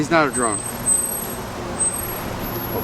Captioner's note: traffic in Background, Plane Overhead